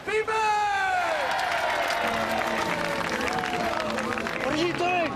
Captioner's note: all cheering